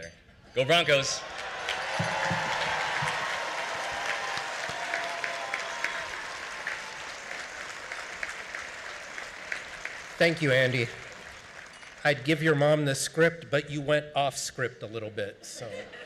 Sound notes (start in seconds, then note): 0.6 cheering; 0.8 applause